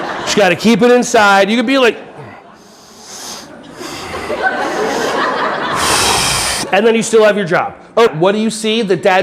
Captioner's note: deep frustrated breathing